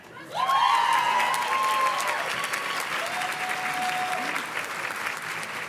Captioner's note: audience cheers and claps